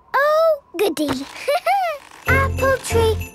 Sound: laughing

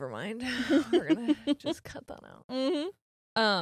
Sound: laughs

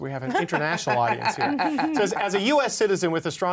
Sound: laughing

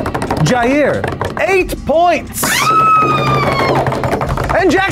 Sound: table thumping; screams

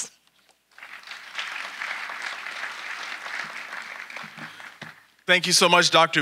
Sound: audience applauding

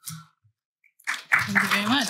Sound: applause

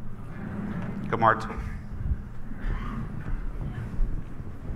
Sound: foreign language

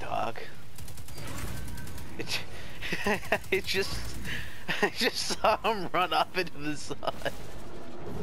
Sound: laugh; more Laughter

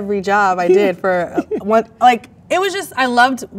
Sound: man laughs

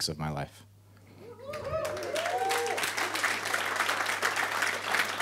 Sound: applauding

